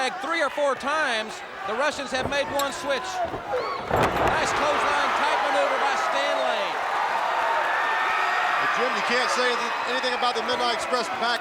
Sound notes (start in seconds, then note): 3.6 crowd chatter; 9.4 crowd cheering